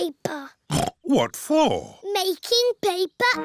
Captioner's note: snorts